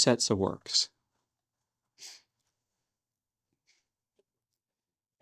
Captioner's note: silence